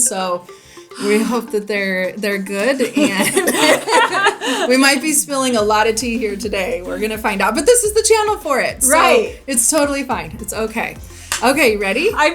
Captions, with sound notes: so we hope that they're good. (both laughing) We might be spilling a lot of tea here today. We're gonna find out, but this is the channel for it. - Right. - So, it's totally fine. It's okay. Okay, you ready?